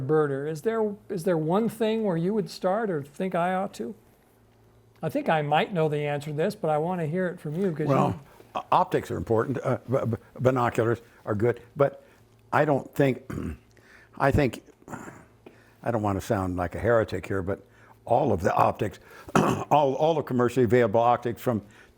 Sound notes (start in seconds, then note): 19.2 clears throat